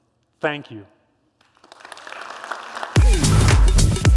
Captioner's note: applause